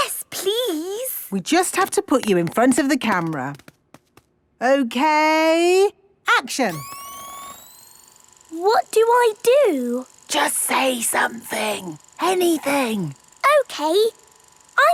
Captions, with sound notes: - Yes, please! - We just have to put you in front of the camera. Okay... Action! - (camera whirring) - What do I do? - (whispering) Just say something. Anything. - Okay.